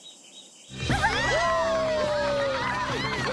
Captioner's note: cheering